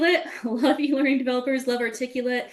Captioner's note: laughing